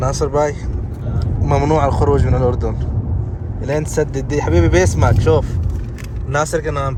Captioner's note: Arabic